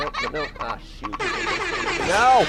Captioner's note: loud air horns